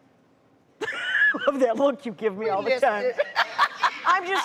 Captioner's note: laughs